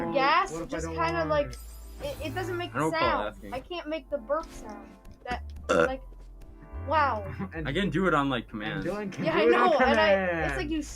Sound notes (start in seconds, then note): 5.6 burps